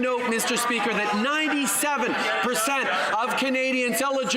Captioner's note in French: voix de l'interprète